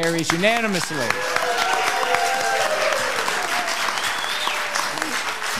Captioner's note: applauding and cheering